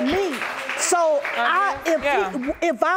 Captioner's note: stammering